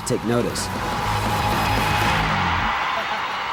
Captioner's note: cheering